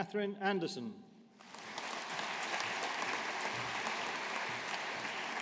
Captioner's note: audience applauding